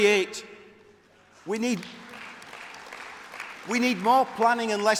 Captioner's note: applause